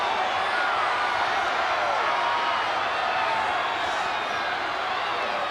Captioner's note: applause